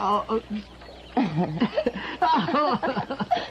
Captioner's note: both laughing